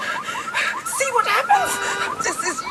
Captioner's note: car alarm